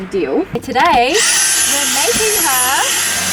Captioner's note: vacuum noises